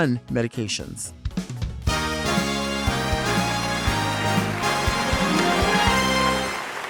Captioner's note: upbeat music; audience clapping